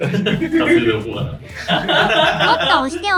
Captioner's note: laughs